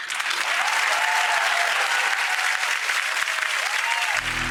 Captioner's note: crowd cheering